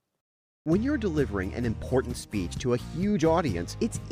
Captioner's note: voice-over